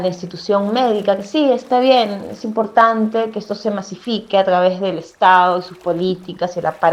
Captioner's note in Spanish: sonidos de agua, tronco árbol y voz off femenina #6